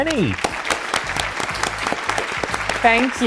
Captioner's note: applause